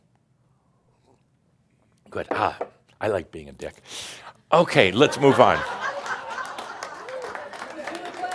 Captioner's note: laughter